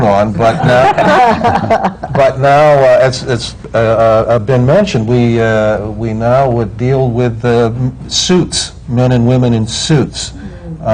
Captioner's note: laughter